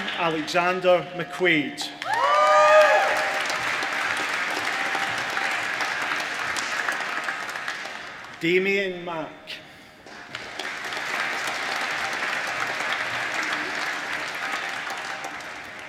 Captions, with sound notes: Adam Alexander McQuade (APPPLAUSE) Damien Mack (APPLAUSE)